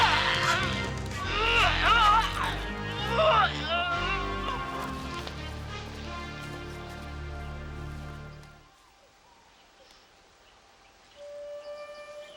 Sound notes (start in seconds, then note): 0.0 dramatic music; 0.1 Fu grunting; 5.0 dramatic music